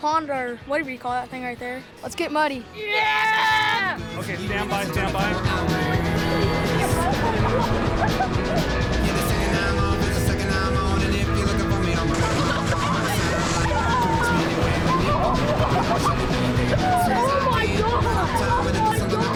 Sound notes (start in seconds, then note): 5.7 upbeat music; 8.1 laughing; 8.9 upbeat music